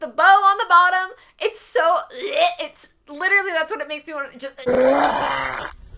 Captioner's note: retching